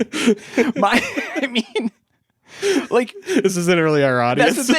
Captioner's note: laughs